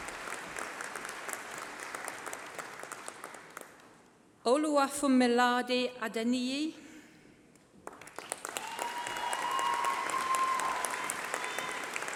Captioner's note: applause